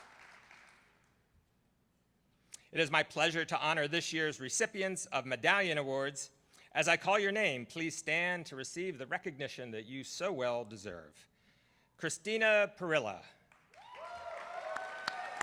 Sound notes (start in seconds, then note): 0.0 applause